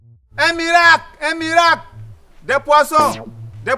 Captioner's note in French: cri lointain